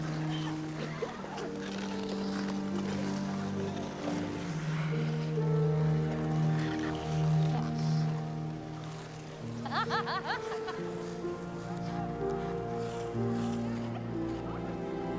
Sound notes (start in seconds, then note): 0.1 light music; 9.6 Cassie laughs; 12.1 light music